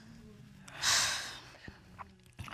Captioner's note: sighs